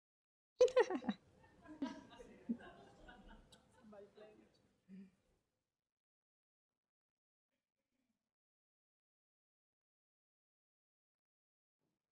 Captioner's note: laughter